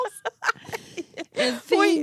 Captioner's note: laughing